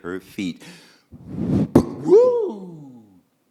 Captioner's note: waves rolling in